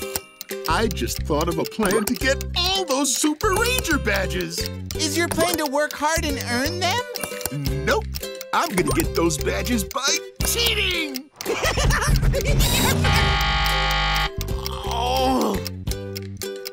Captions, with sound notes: I just thought of a plan to get all those Super Ranger Badges. Is your plan to work hard and earn them? Nope. I'm gonna get those badges by cheating. [laughing] Oh. Ugh.